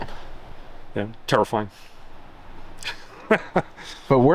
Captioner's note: laughing